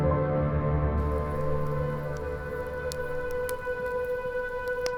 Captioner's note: fire crackling